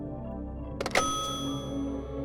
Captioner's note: click